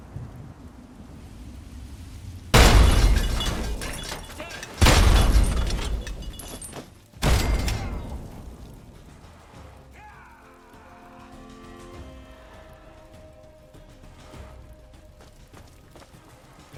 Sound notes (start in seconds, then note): 2.5 BOOM! An explosion shakes the building, sending objects flying!; 5.5 boom!